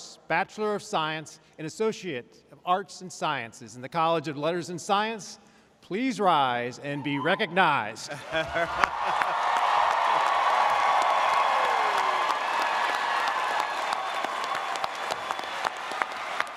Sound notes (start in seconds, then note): 8.1 audience cheering; 13.3 audience applauding